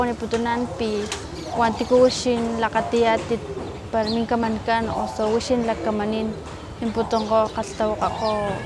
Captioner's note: speaking in Totonaco